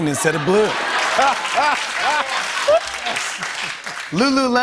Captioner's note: laughter